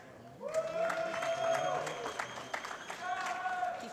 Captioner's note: applause